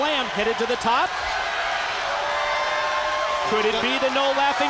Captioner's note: crowd cheering